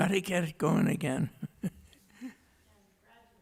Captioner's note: laughs